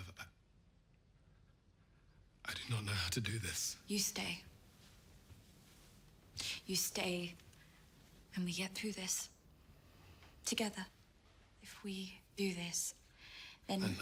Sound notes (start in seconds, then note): 4.4 clothes rustling